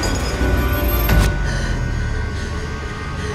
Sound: gunshots

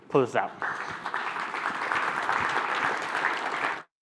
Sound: applause

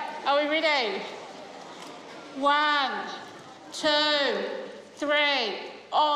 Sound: children chuckle

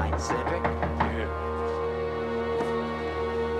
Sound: knocking

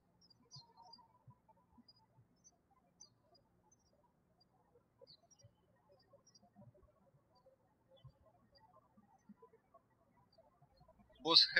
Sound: birds chirping

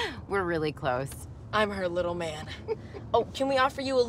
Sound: chuckles

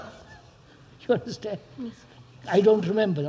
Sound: laughs

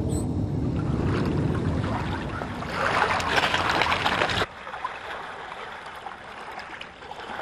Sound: sound effects: seagulls squawking; sound effects: water lapping against rocks

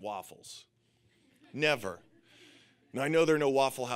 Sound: audience laughing

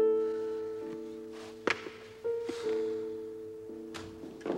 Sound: disappointed sigh

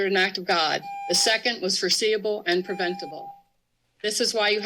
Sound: beeping

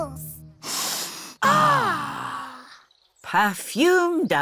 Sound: all sniff

